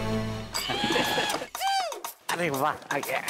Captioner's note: stool moving